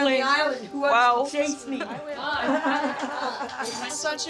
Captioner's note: chatter & laughter